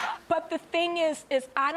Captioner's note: none